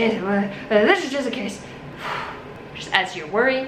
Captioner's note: sighs